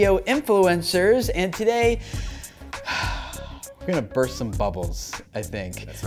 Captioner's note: sigh